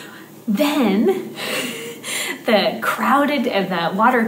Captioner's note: laughs